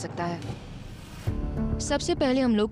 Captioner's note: narrating